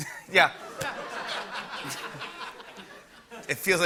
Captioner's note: laughter